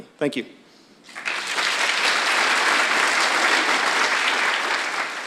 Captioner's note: applause